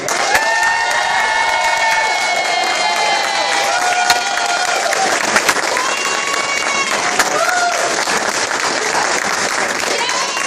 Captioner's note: cheering and clapping